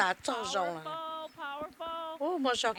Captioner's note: cheers and applause